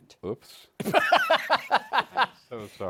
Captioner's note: laughs